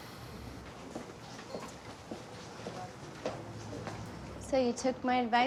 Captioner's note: heels clacking